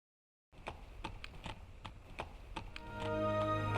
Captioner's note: horse hooves clomping